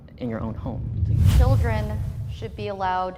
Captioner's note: whoosh air